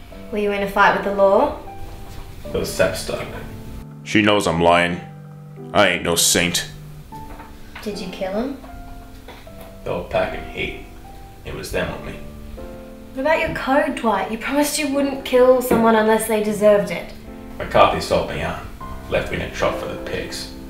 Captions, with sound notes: Were you in a fight with the law? Those saps started it! (Voiceover) She knows I'm lyin'. I ain't no saint. Did you kill them? They were packin' heat. It was them or me. What about your code, Dwight? You promised you wouldn't kill someone unless they deserved it. McCarthy sold me out. Left me in a trough for the pigs.